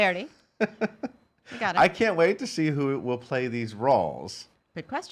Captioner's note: laughs